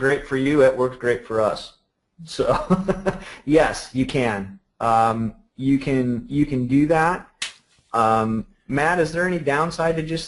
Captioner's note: laughter